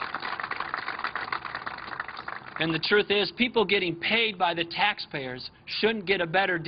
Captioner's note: applause